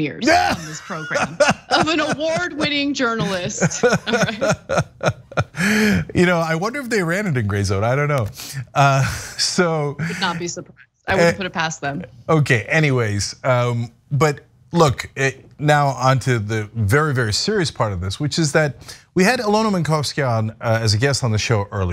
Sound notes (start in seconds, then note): 4.8 laugh